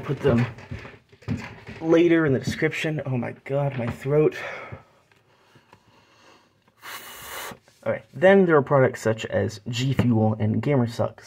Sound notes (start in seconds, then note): 5.2 exhale